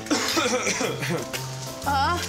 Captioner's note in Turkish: Öksürüyor